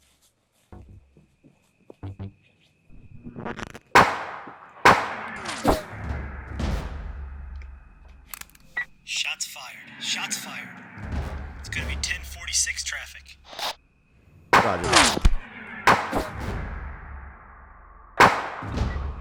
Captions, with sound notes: (gunshots banging) (radio beeps) - Shots fired, shots fired. It's gonna be 10-46 traffic. (radio static buzzes) - Roger that. (gunshots banging)